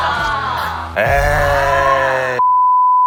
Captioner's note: booing at each other